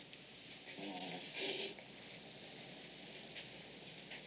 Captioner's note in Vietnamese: Sụt sịt